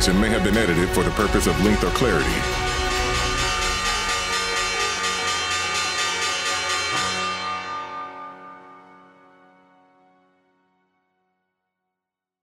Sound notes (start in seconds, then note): 3.0 bells chiming